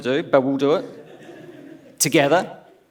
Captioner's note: laughs